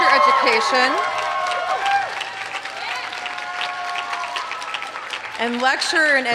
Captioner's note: applause